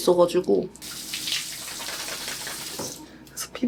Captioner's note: splash splash